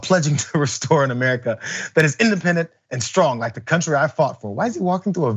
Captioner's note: laugh